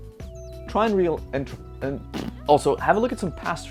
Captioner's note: blows raspberry